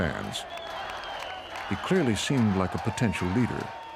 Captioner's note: cheers